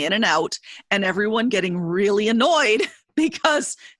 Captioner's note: laughs